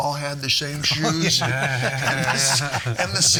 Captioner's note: all laughing